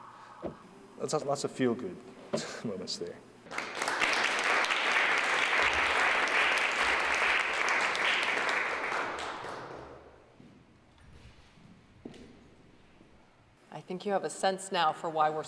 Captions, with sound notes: Let's have lots of feel good moments there. [ Applause ] >> I think you have a sense now for why we're